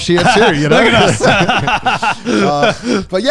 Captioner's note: everyone laughs